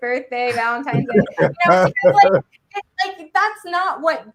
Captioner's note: panelists laugh